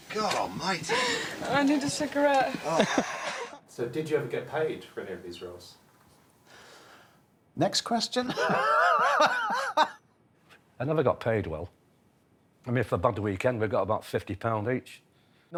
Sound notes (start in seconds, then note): 0.1 actress laughs; 8.2 laughing